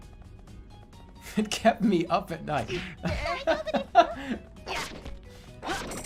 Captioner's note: laughing